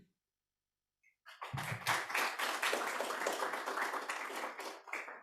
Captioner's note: applause